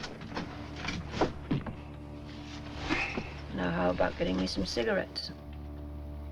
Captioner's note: sighs